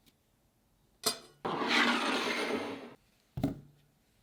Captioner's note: bowl sliding